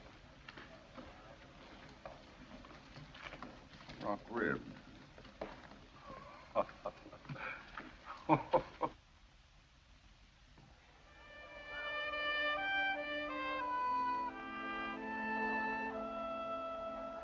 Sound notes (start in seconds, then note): 6.0 laughs; 11.1 pensive music